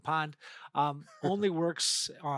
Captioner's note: laughing